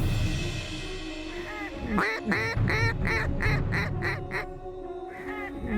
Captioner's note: duck calls